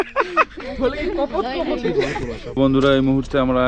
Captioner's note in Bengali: সশব্দ হাসি